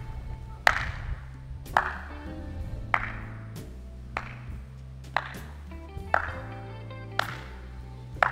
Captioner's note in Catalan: Aplaudiments